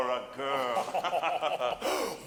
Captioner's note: laughing